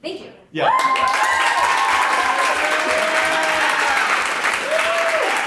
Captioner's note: audience applauds